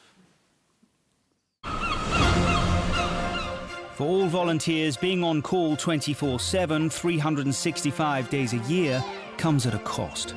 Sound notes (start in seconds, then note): 1.6 birds chirping; 2.4 upbeat music